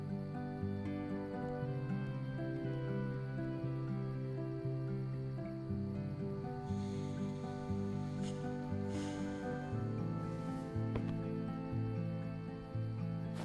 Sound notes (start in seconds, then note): 0.2 soft music; 9.1 sighs